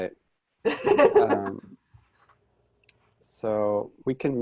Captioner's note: lady laughs